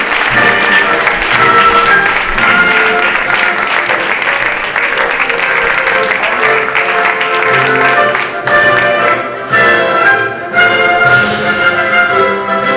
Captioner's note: applause